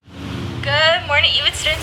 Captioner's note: bus driving